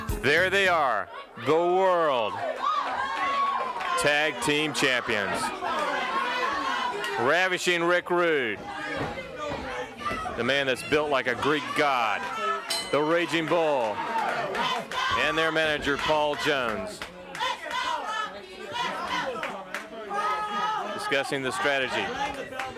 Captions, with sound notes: There they are, the world tag team champions, the Ravishing Rick Rude. (footsteps plodding) The man that's built like a Greek God. (bell ringing) The Ragin' Bull and their manager Paul Jones. Let's go, let's go, let's go Rocky, let's go. Discussing the strategy.